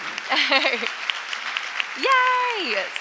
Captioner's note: audience claps; laughs